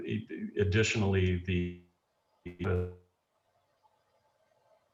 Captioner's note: lost signal